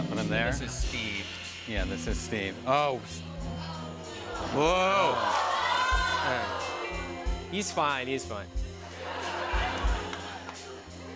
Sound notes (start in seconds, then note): 3.4 audience exclaiming; 8.8 laughter